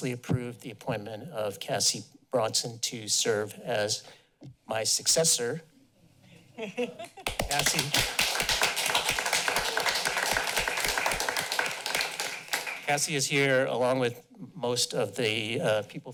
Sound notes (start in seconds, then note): 7.2 applause